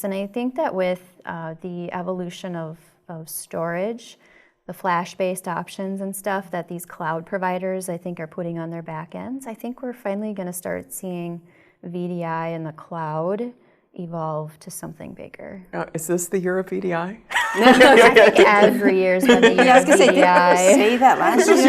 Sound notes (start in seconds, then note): 17.3 laugh